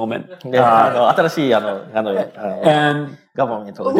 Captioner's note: speaking japanese